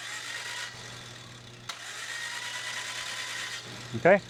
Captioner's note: drilling